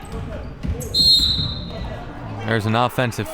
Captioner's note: whistle